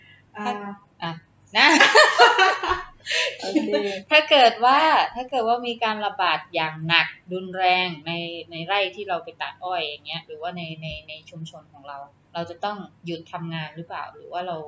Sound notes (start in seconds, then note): 1.4 laughing from hesitation to speak :D